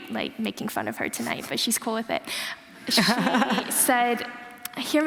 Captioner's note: laughter